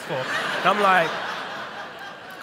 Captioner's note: laughter